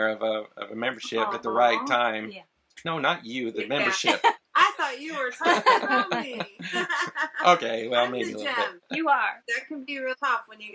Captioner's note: laugh